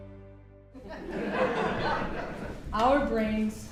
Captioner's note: people laughing